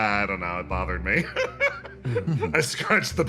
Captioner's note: laugh